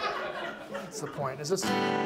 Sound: audience laughs

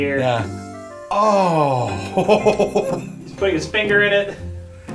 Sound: chuckles heartily

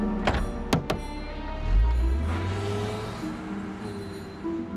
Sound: tapping twice on van

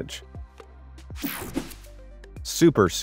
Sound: photo whooshing

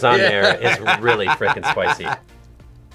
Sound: laughs

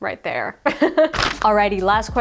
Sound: laughs

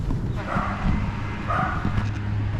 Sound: neighborhood dogs keep barking

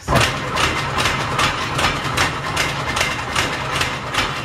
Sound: machine rattling

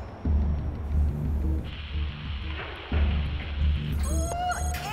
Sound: static crackles

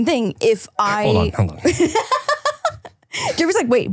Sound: laughing

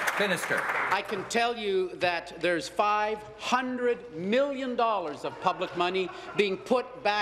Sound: applause

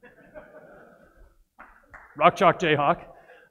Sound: audience laughs

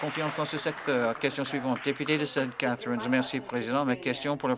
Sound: applause

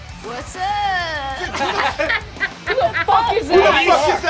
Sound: laughs

